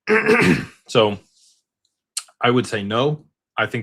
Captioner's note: clears throat